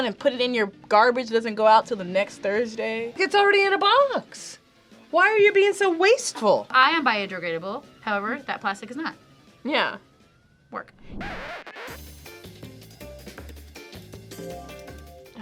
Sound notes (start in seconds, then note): 10.9 record scratches; 11.3 upbeat music